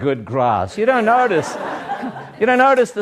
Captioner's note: laughter